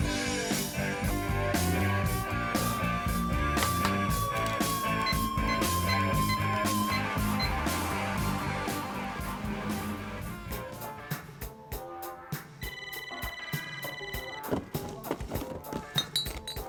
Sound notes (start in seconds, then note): 0.1 upbeat rock music; 5.4 phone buttons beeping; 11.5 funky music; 12.6 phone ringing